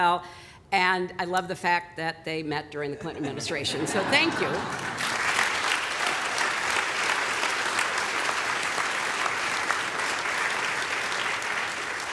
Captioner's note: applause